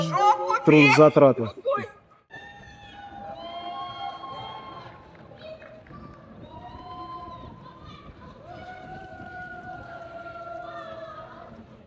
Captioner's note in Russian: крик